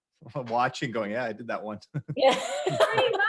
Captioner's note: all laugh